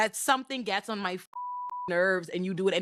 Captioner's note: beep